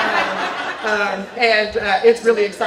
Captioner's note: laughter